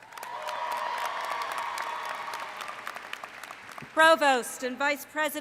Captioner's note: cheering